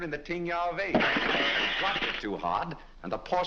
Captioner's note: porcelain breaking